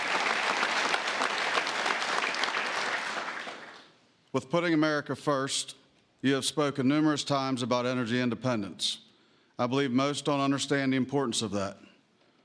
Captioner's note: applause